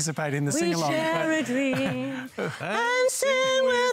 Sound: laughter

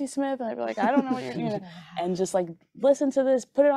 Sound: group chuckling

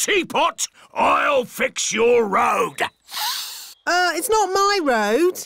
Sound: sniffs

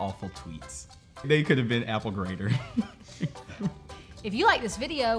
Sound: laughing

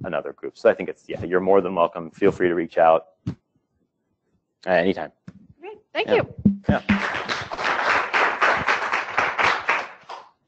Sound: applause

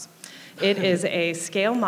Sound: laughing

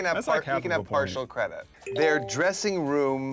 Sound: notification beep

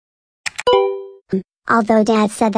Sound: button push, computer sound

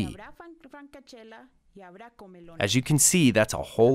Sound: foreign language 00:07:58

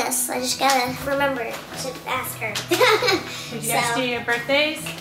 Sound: laughs

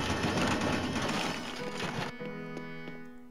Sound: none

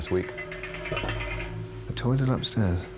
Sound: metal clanging

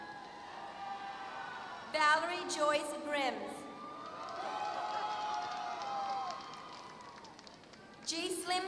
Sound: applause

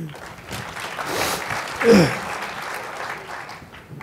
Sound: applause

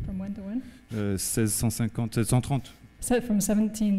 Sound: speaking french

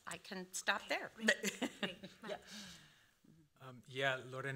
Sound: laughing

